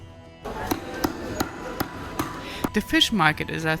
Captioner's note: fisherman chopping